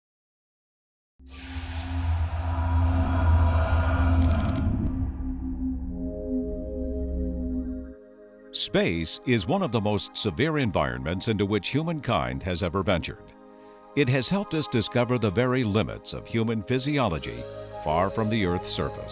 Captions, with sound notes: [ Sound Effects ] Space is one of the most severe environments into which humankind has ever ventured. It has helped us discover the very limits of human physiology far from the earth's surface.